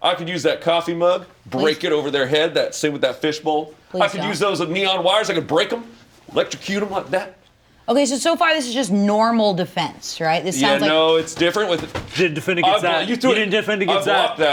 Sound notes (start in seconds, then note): 10.8 pillow thumps